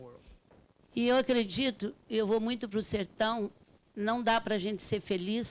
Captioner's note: speaking Portuguese